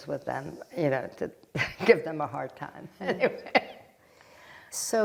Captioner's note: laughing